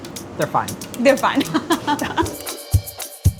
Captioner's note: laughs; upbeat drum music